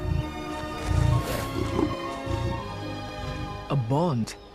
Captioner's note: growling